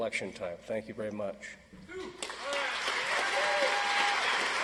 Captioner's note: audience applauds